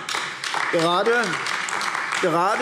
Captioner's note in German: Beifall AfD